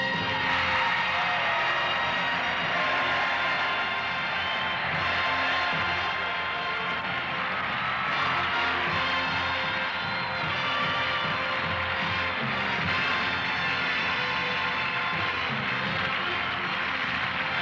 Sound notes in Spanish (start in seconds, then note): 0.0 gritos; 8.5 aplausos